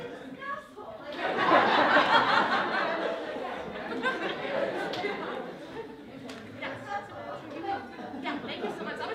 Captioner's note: laughter